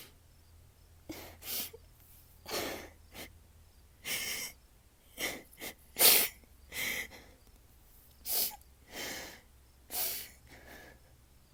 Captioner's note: sobbing & sniffling